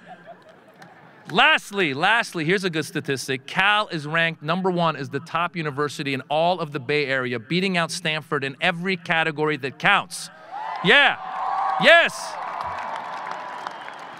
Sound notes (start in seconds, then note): 10.4 audience cheering